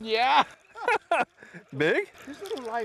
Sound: laughter

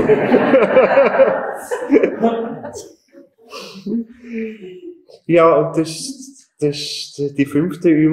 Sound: general laughter in the auditorium

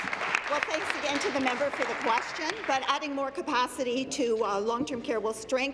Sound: applause

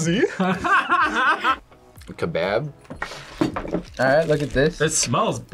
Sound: laughs

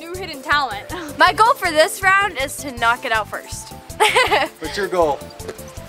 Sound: laughing

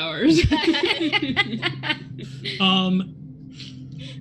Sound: group laughs

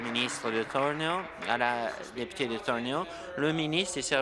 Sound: applause

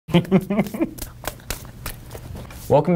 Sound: laughter

